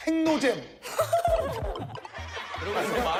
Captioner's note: bursting with laughter